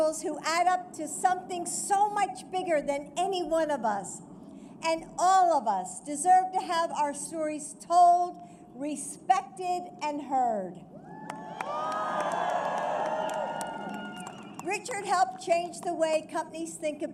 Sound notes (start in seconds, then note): 11.2 applause